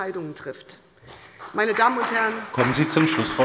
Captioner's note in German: Beifall bei der SPD